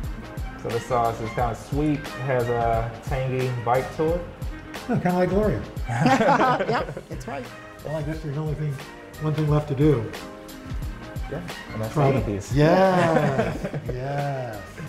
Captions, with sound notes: This sauce is kind of sweet. Has a tangy bite to it. - Kind of like Gloria. (laughter) - Yep! That's right. - One thing left to do. - Gonna eat these. - Yes!